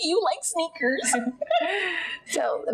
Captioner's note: laughing